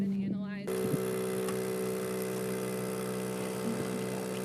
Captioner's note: machine roaring